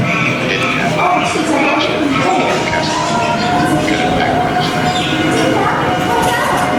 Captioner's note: background voices from 'Casablanca'